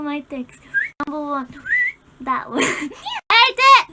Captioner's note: whistles